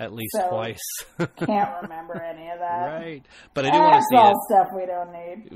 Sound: DJ laughs

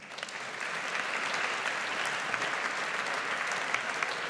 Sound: audience applauds

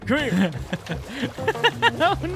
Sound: laughs

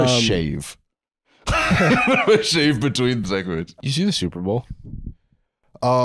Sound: laughing

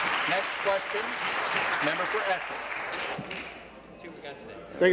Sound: applause; voice trailing

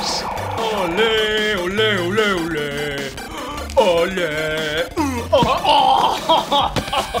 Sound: singing; laughter, grunts of pain

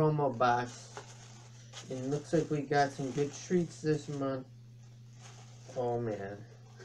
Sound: rustling of tissue paper

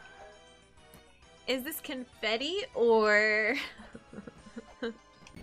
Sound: snickering

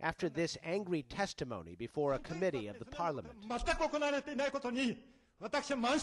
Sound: through translator

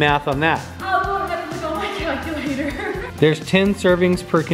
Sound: chuckles

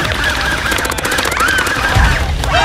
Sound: gunshot firing

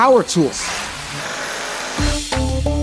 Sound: saw whirring

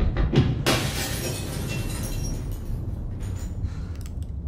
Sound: glass shatters

